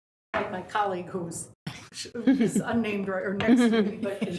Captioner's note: laughs